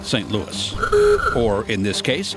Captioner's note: car horn honks